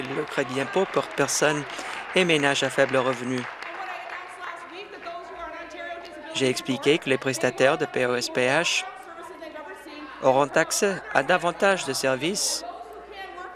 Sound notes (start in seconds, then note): 5.0 applause